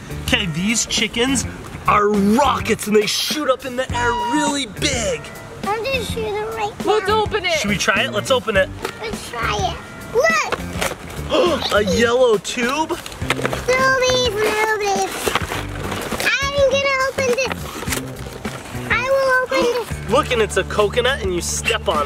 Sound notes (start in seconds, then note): 10.4 cardboard rustling; 11.2 gasps; 11.3 squeals; 17.6 cardboard tearing